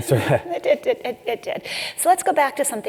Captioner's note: laugh